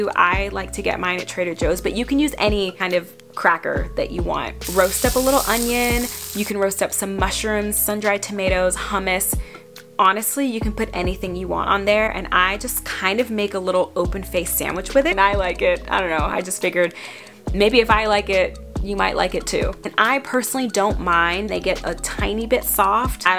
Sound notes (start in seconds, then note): 4.6 onion sizzling